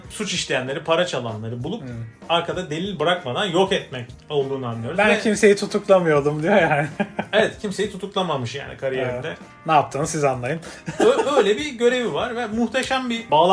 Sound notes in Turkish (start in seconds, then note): 6.6 kahkaha